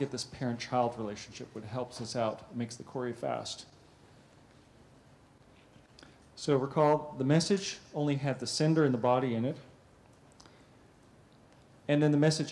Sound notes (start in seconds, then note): 3.6 pause; 9.5 pause